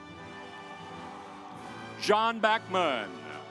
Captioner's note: audience applauds